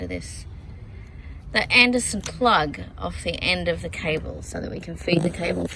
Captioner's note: exasperated